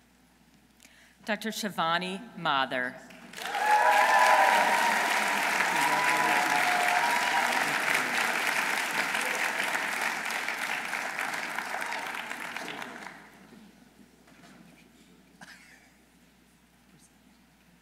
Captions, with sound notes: Dr. Shivani Mathur. -(audience cheering) -(audience applauding)